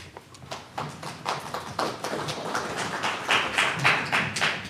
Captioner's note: audience applauds